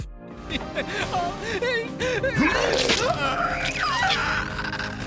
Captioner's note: laughing; screaming